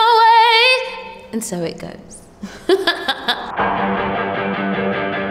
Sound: laughing

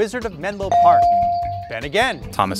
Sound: bell dings

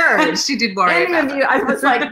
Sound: laughs

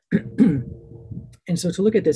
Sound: clears throat

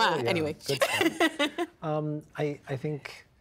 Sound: laughing

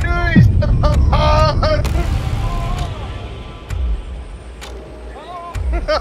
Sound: clock ticking; everybody laughing

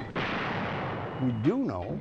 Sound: tank firing

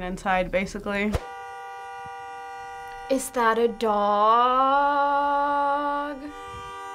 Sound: car horn

